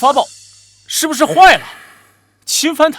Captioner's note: gasp